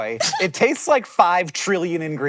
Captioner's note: laughs